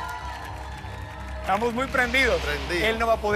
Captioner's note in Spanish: aplausos